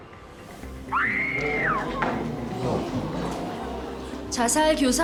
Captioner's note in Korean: 비명 소리